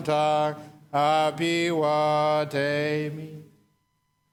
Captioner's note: none